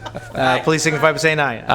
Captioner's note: laughter